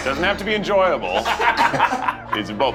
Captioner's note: laughter